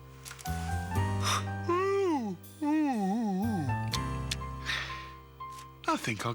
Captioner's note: yawn